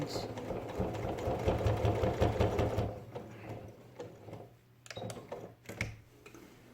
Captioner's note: sound of sewing machine